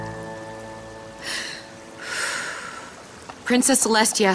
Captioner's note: sighs heavily